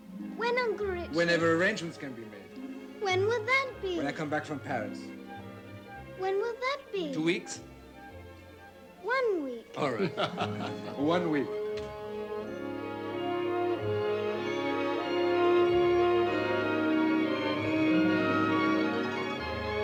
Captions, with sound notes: - When, Uncle Richard? - Whenever arrangements can be made. - When will that be? - When I come back from Paris. - When will that be? - Two weeks? - One week! - All right. One week. (laughing) (grand orchestral music)